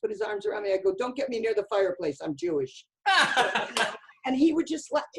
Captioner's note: laughter